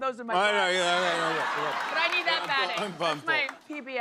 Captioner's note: laughter